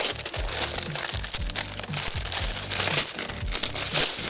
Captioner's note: paper rustles